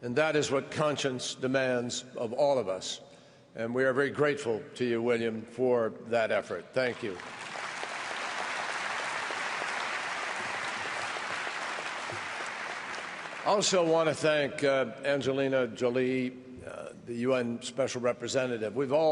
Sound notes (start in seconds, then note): 9.2 applause